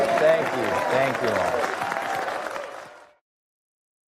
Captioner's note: cheering and applause